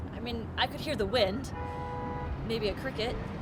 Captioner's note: horn honking